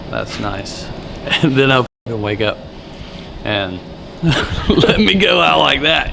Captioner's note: laughs